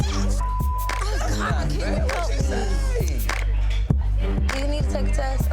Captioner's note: beep